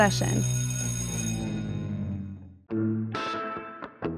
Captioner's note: bell ringing; blues music